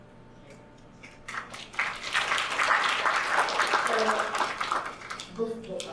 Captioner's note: audience applauding